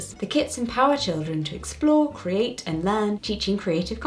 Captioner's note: none